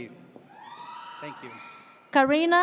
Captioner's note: audience cheers